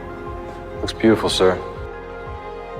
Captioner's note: voiceover